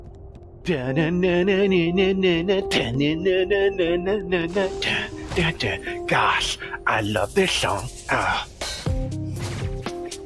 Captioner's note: humming along to the music